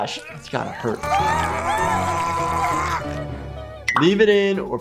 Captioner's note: Pop grunting